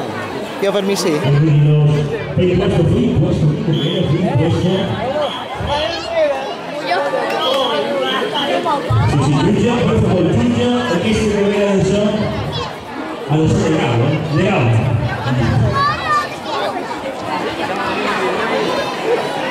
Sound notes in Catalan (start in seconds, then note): 5.1 Un xiulet sona 7 vegades; 10.0 Hi ha altra gent xerrant